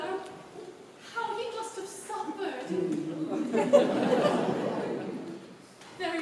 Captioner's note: laughter